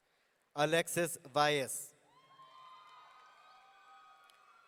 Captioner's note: audience cheering